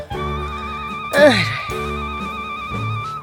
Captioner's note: sigh